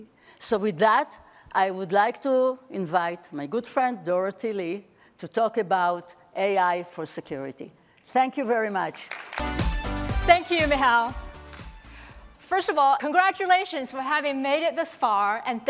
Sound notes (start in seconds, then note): 8.9 applause